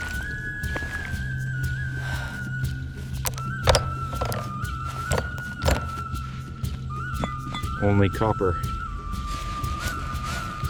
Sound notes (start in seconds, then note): 3.2 instrumental music; 4.8 door opening